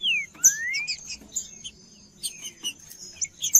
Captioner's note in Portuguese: trinca ferro cantando